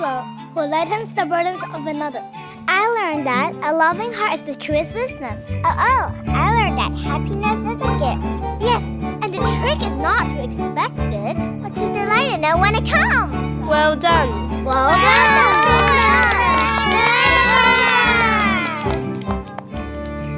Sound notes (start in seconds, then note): 14.8 students cheering